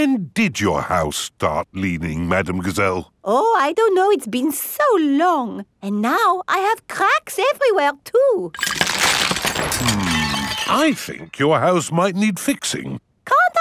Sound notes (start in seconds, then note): 8.5 cracking